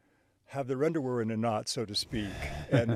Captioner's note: chuckles